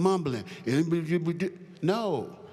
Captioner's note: mumbles